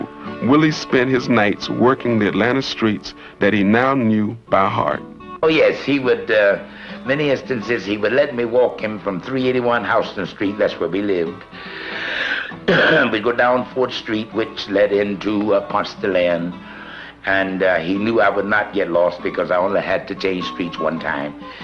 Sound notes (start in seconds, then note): 11.5 coughing